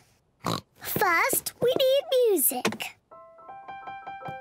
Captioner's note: oinks; gentle piano music playing